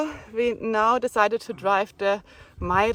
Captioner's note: none